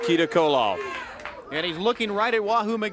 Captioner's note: crowd chatter